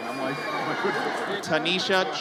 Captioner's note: audience cheers